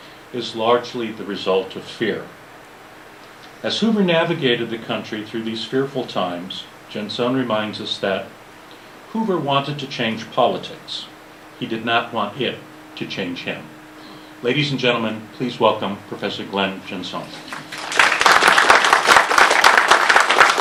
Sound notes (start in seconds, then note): 17.4 applause